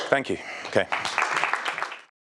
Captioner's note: applause